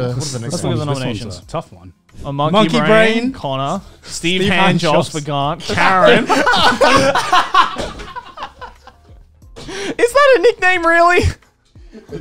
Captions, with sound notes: Let's look at the nominations. Monkey brain Connor, Steve Handjobs for Garnt, Karen. (everyone laughs) Is that a nickname, really?